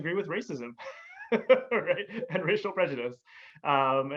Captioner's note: laughs